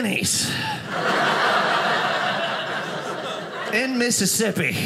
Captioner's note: audience laughing